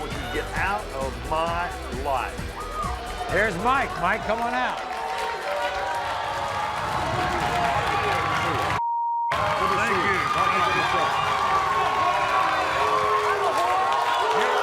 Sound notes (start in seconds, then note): 5.2 cheering